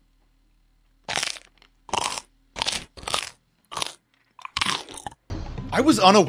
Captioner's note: more crunching